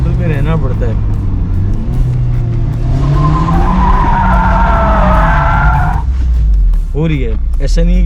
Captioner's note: drifting sound